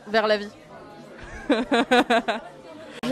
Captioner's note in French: rire